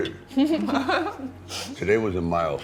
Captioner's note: women laughing